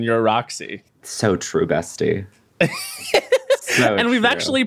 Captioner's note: laughs